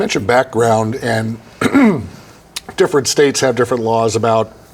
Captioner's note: clearing throat